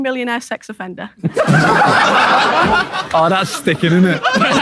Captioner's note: people in room laughing